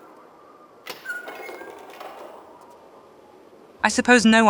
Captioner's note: sound of the door ♫